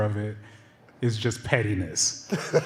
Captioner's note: laughter